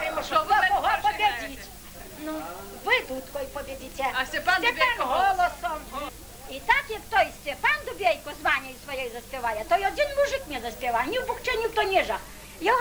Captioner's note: laughs